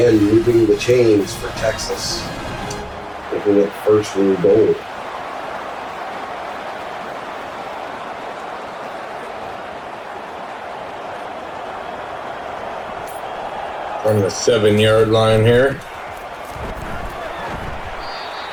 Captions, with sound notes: Again, you bring the chains for Texas, making it first when you go. [Crowd Noises] From the seven yard line here. [Crowd Noises]